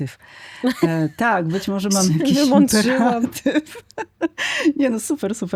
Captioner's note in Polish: śmiech